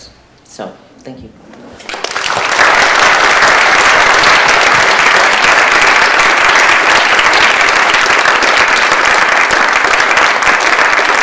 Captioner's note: applause